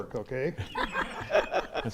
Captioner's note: laughing